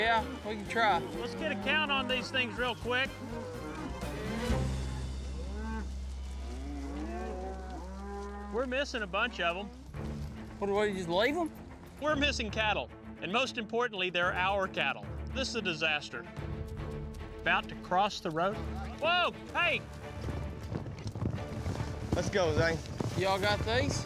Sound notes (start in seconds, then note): 3.8 mooing